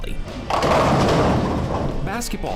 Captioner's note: loud crash